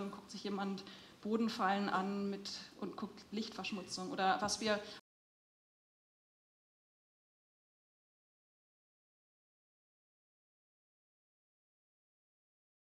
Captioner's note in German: technische Störung - kein Ton